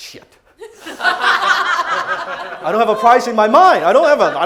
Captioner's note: crowd laughing